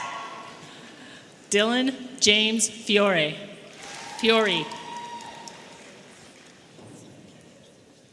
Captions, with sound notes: Dillon James Fiori. (audience applauding and cheering)